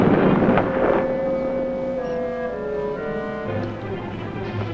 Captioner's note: bombs exploding